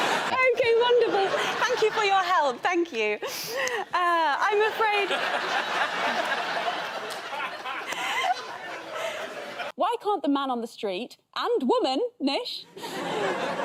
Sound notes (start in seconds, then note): 4.7 laughter